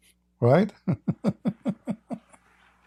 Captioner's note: Ketawa